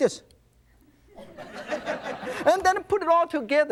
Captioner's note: audience laughs